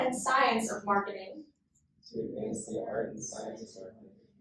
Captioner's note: inductees repeat